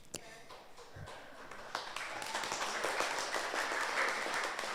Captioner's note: audience applauds